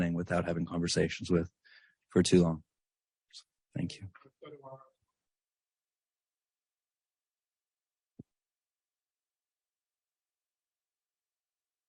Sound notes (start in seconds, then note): none